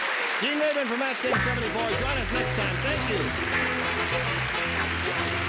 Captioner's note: applause; upbeat music